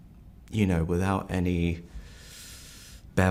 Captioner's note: inhales